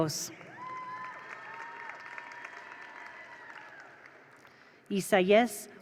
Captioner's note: attendees cheer; attendees applaud